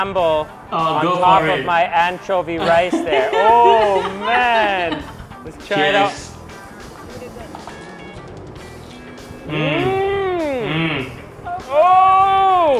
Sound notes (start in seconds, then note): 5.4 laughs